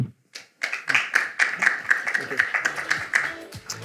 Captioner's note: audience applauding